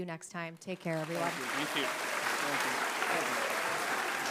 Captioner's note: candidates in unison; applause